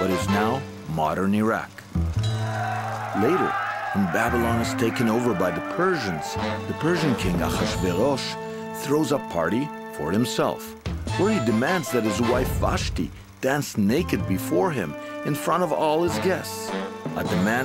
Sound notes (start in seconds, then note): 2.2 soldiers shouting